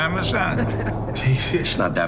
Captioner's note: group laughing